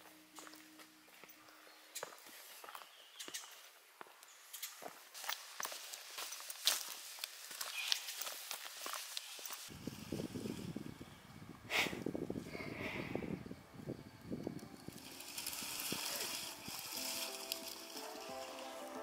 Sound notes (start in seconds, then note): 4.3 leaves rustling; 4.4 footsteps; 15.4 leaves rustling